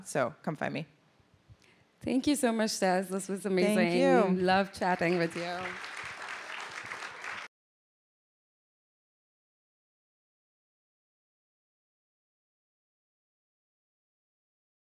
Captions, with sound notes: So come find me. Thank you so much, Tess. This was amazing. Thank you. We love chatting with you. [APPLAUSE]